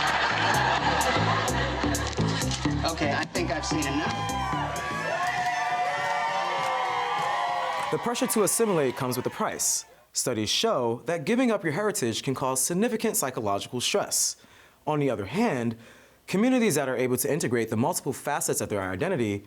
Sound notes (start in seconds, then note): 0.0 upbeat music; 4.5 crowd cheers